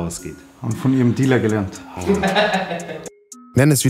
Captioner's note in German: Lachen